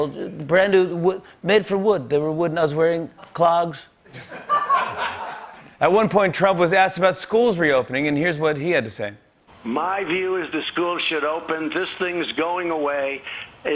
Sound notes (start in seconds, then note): 4.0 laughter